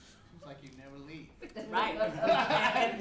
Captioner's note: laughter